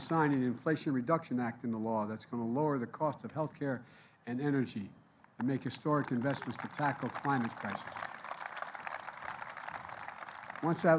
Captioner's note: applause